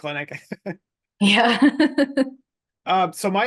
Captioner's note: laughs